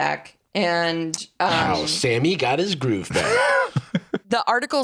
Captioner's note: laughs